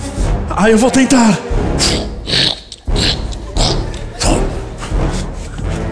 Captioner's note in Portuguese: barulho de marcha